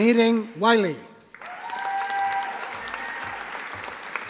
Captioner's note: audience applauding